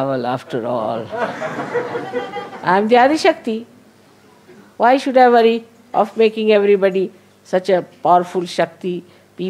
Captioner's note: laughter